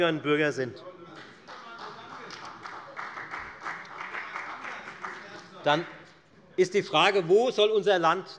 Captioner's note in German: Beifall bei der FDP - Zuruf von der CDU: Fassen Sie doch mal einen Gedanken!